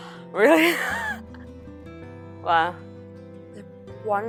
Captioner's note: laughs